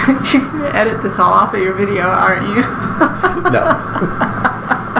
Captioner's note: laughing; laughing